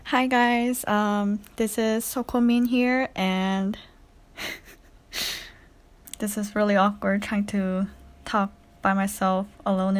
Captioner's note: raughs